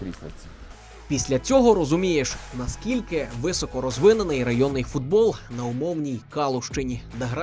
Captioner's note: voiceover